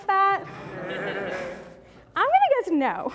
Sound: audience Laughing

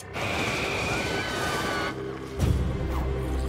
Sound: yelling in distance

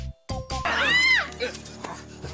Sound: screams

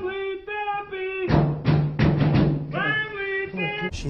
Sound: bang! bang! bang bang bang!

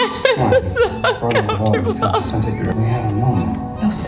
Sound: laughs

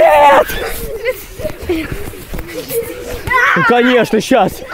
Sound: gasps of amazement

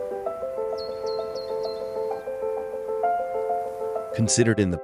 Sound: birds chirping

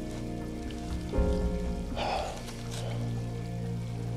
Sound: sighs

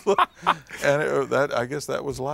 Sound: laughter

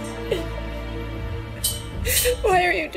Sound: crying

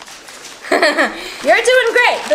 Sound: assistant giggles

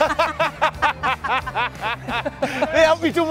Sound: both laugh

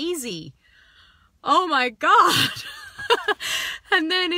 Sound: laughs

